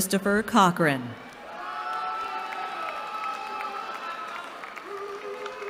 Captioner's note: cheering